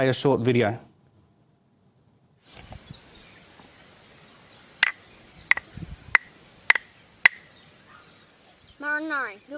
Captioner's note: speaks in Indigenous language